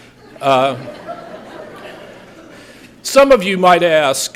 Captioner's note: laughter